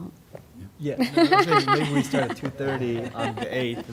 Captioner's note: laughter